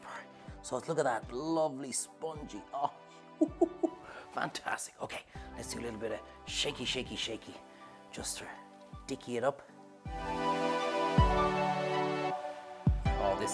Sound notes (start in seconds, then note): 3.4 chuckles; 9.7 bright music